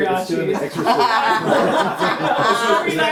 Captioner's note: laughter